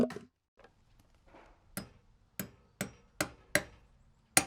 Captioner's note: hammer striking